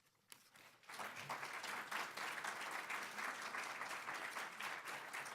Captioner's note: audience applauding